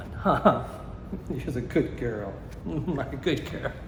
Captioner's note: chuckles